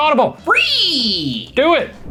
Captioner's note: makes frog sound